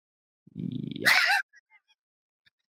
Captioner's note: laughing